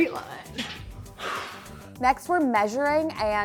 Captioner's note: sighs